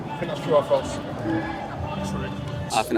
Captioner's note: scoreboard beeps